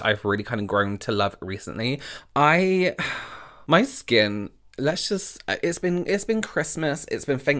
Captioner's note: sigh